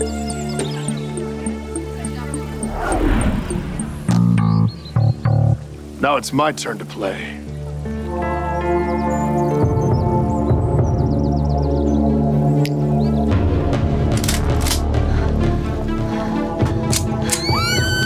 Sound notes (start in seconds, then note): 7.9 tense music; 12.5 boss snaps; 14.1 guns clicking; 17.3 guests screaming